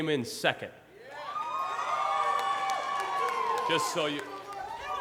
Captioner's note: audience applauds and cheers